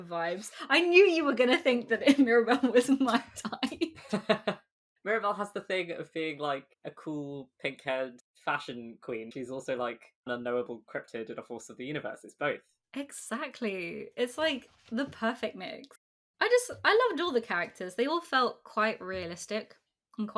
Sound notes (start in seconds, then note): 4.5 laughs